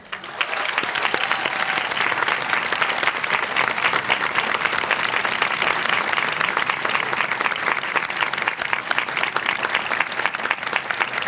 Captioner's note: applause